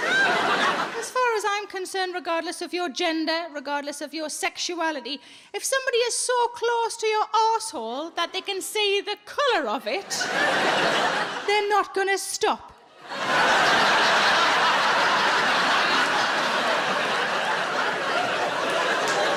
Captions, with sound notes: As far as I'm concerned, regardless of your gender, regardless of your sexuality, if somebody is so close to your arse hole that they can see the colour of it, they're not gonna stop. (audience laughs)